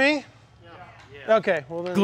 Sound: crowd

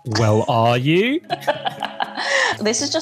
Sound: laughs

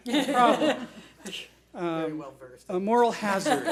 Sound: board laughs

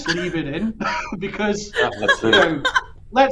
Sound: laughs

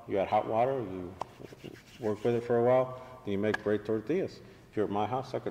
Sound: hands rubbing together

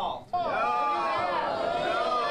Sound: Nats of boos and crowd no"s

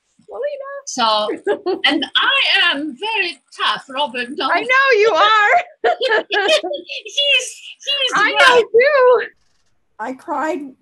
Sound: laughs

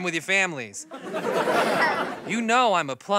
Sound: laughter

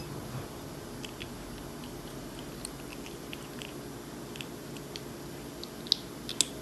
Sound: eating

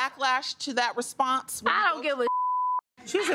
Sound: beep

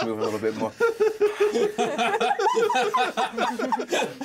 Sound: laughs

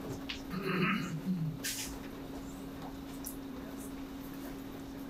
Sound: man clears throat

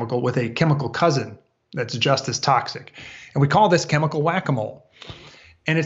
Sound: none

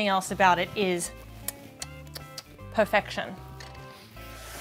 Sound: kissing fingers

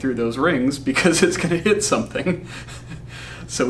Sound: laughs

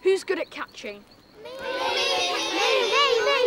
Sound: crowd yelling "Me!" together

